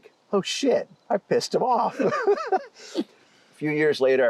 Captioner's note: laughs